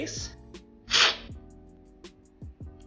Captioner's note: slurping